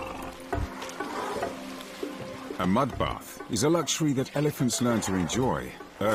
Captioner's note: elephants trumpeting; upbeat music